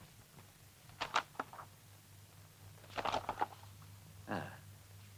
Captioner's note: paper rustles